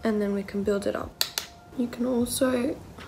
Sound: tapping

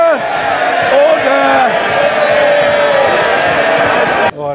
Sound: House of Commons interjecting

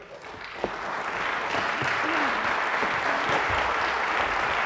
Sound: applause

